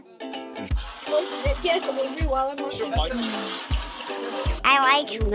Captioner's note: milk pouring in pail